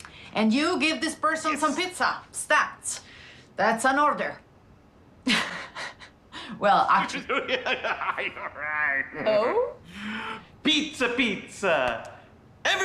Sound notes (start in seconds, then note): 6.9 laughing; 7.0 uncle creepy laughing